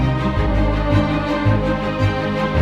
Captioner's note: none